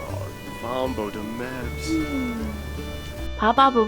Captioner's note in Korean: ㅎㅎㅎㅎ